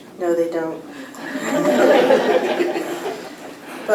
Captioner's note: laughter